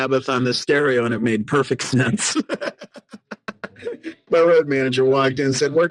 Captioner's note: laughs